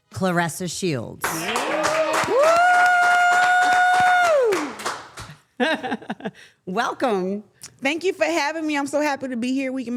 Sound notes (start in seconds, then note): 1.3 everyone cheering; 5.6 Claressa chuckles